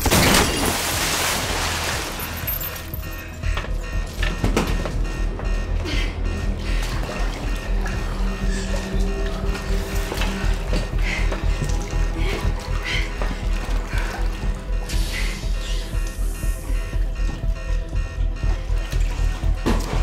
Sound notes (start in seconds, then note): 0.0 water splashing; 0.1 rover thuds; 3.0 alarm blaring continues; 3.0 suspenseful music continues; 6.6 water sploshing; 10.8 Christine breathing heavily; 14.7 hatch hissing; 14.7 suspenseful music continues